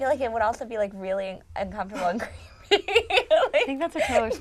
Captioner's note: laughing